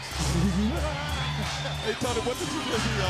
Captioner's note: laughs